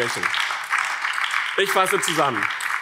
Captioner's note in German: Beifall BÜNDNIS 90/DIE GRÜNEN und vereinzelt Freie Demokraten